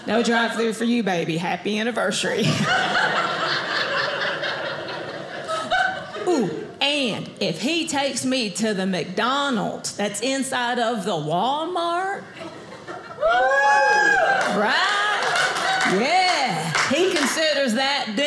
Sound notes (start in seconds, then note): 2.5 audience laughing; 13.2 audience cheers